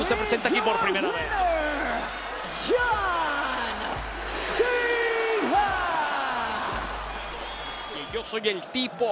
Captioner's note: applause